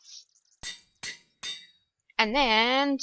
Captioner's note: metallic banging